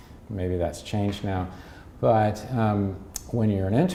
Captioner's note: smacks lips